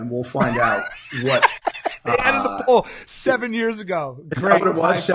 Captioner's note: laughing